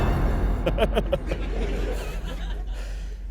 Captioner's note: maniacal laughter